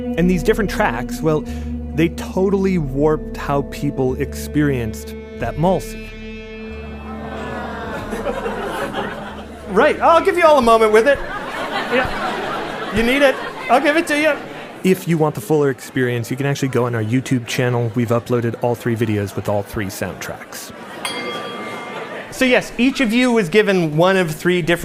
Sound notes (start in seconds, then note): 6.9 laughter